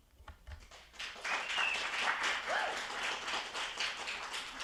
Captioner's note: attendees applauding